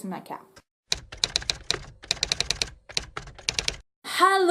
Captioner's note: typewriter Sound